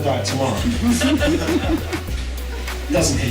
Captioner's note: laughter